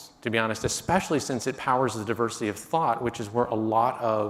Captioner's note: none